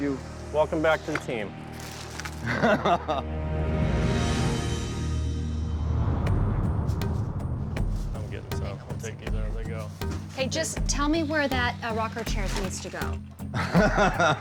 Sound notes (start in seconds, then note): 2.4 laughs; 13.5 laughs